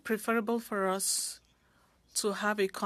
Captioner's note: speaking French